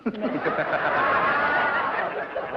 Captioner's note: laughter